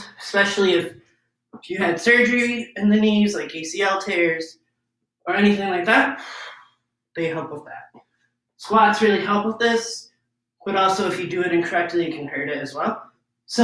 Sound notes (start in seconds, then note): 6.2 exhales deeply